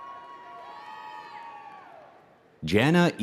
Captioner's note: audience cheering